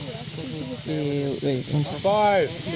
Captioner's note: foreign language